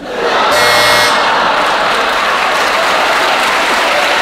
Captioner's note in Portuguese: campainha